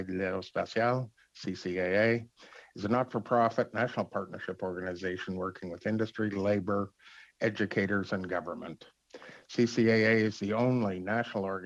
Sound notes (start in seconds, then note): 4.0 speaking French